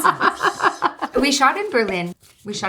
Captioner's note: Natalie laughing